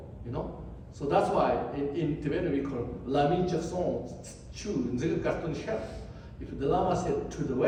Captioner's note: tibetan